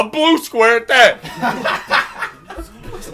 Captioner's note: group laughing